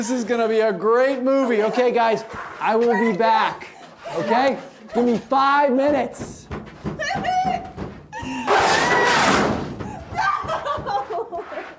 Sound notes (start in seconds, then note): 5.8 door banging; 8.2 Isabel screaming; 8.8 door closes